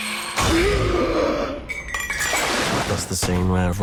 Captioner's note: gasps